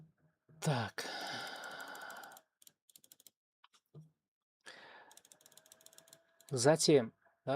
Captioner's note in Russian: вздыхает